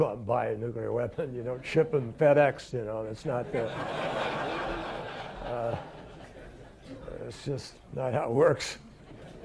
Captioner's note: laughter